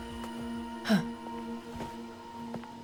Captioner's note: scoffs